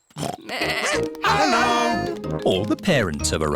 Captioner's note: oinks; barks; bleats